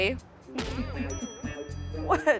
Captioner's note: ding